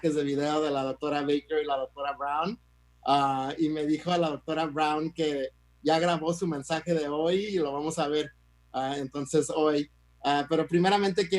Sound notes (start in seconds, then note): 1.1 speaks in Spanish